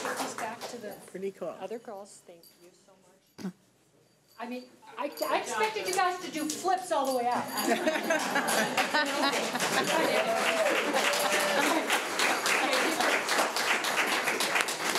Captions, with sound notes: Oh, take these back to the other girls, thank you. I mean, I expected you guys to do flips all the way out. (woman laughing) (audience applauding and cheering)